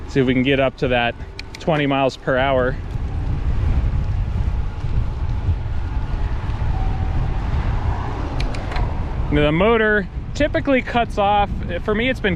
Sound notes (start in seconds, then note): 3.3 motor roaring softly; 3.3 wheels whizzing